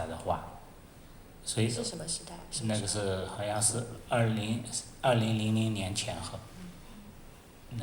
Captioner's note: Mandarin